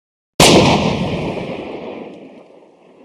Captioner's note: gunshot